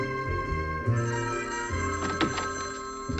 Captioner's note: phone ringing